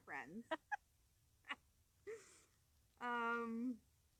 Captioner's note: laughing